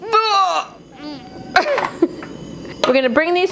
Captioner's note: groans; chuckles